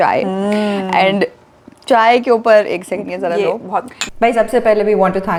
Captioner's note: mugs clink